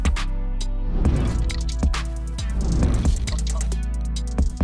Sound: hip electronic music; air whooshing

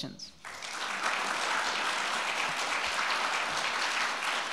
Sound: audience applauding

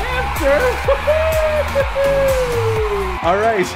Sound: crowd cheering

